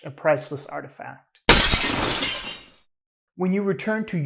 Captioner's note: glass shatters